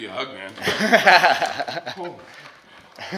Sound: laughter

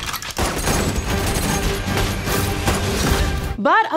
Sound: dramatic music playing; guns firing

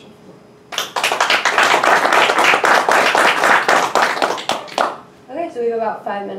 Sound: audience applauding

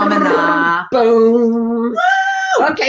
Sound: screaming

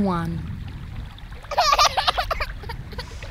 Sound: child laughing

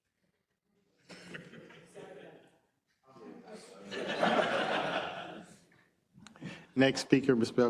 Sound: laugh

